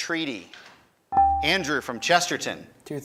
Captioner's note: buzzer chimes